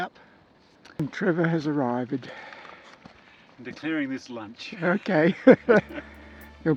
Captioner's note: laughs